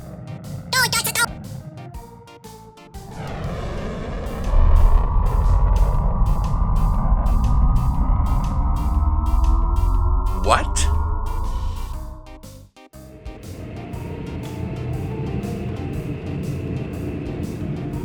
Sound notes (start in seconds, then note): 0.1 sound of screeching brakes; 6.1 green alien says, “Doy-Dotta-Doh”